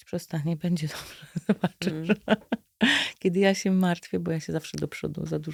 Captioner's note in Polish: śmiech